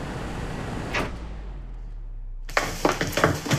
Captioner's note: a/c clunks off